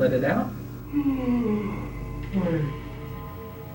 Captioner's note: yawning